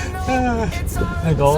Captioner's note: laughter